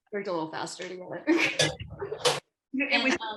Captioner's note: laughter